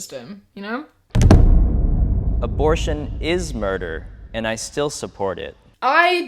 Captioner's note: booming sound